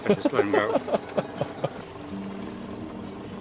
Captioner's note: laughter